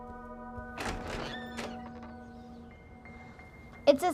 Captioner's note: door clicking